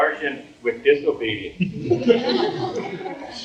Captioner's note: audience laughs